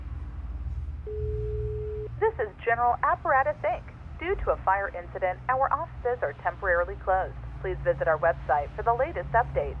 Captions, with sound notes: - [Recorded Message] This is General Apparatus Inc, due to a fire incident, our offices are temporarily closed. Please visit our website for the latest update.